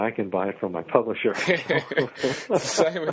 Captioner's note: laugh